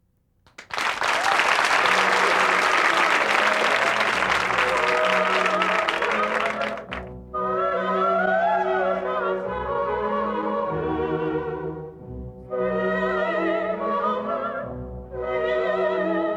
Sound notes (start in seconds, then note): 0.4 applause; 2.0 applause fades